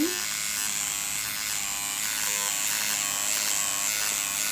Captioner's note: machine buzzing